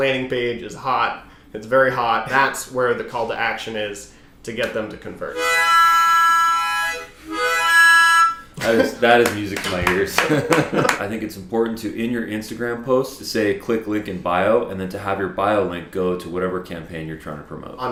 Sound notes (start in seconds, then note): 5.2 harmonica music; 9.2 clapping; 9.5 laughing